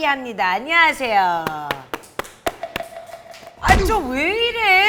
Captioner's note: applause